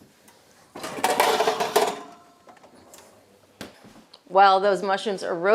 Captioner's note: pan clatters